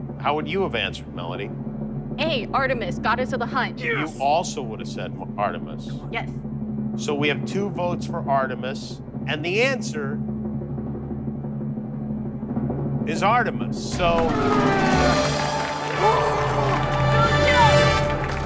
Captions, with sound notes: How would you have answered, Melody? "A," Artemis, goddess of the hunt. Yes! You also would have said Artemis. Yes. Come on, come on. So we have two votes for Artemis. And the answer... ...is Artemis. Yes! [ Grunts ] Go, Joe!